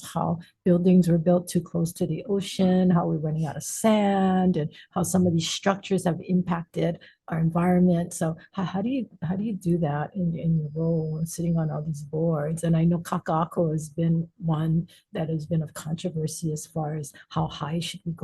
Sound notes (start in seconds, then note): none